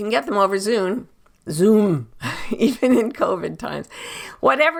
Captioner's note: chuckles